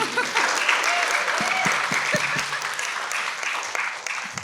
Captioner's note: everyone applauds